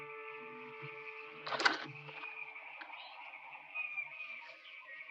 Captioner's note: clattering